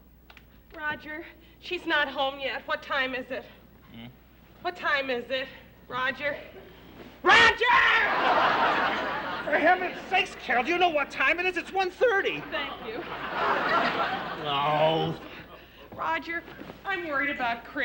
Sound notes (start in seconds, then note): 6.7 yells; 13.8 groaning